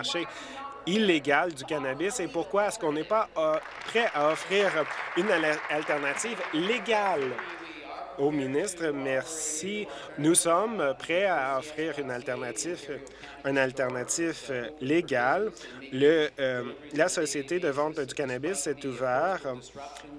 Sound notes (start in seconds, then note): 6.3 applause